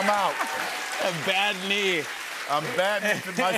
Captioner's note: cheers and applause